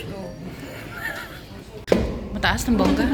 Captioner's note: laughs